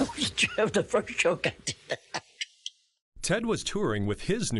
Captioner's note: laughing